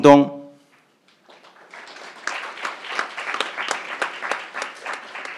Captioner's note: crowd applauding